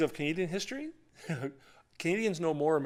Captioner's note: laughter